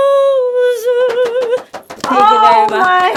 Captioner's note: clapping